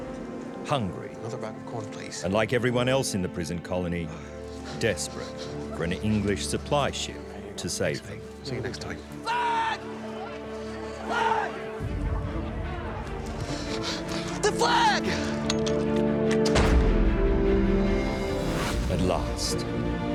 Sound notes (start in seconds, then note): 13.1 gasps; 16.2 musket shooting